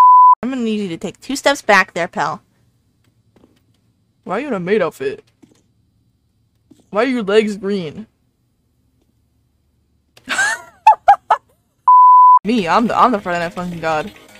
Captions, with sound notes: *nerdy voice* Ima need you to take two steps back there pal. *deep voice* why you in a maid outfit? why are your legs green? *laughing* ME, I'm the- I'm the friday night funkin god.. :D